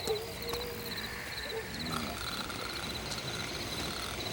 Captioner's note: crickets chirp; gang members snore